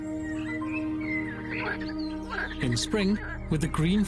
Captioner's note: frog croaking